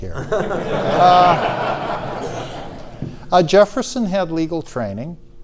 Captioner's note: audience laughs